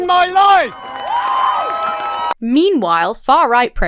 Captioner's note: crowd cheers